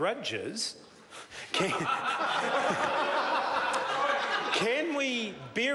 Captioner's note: members laugh